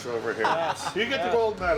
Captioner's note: laughter